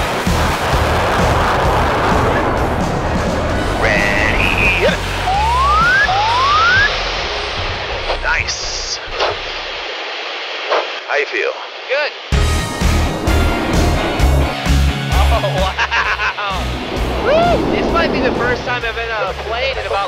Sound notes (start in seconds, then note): 5.4 animated boinging; 12.4 upbeat music